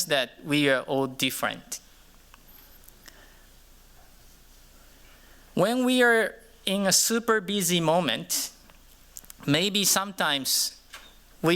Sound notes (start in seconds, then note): none